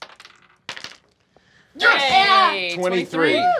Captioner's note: dice clacking; cheering